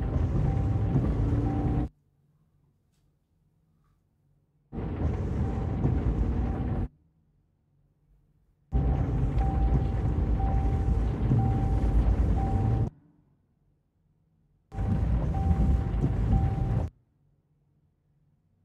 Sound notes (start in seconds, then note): 1.9 silence and heavy rain, continues between scenes, adding tense sound